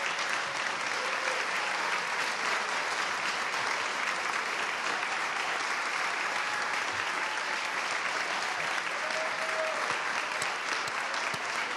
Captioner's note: applause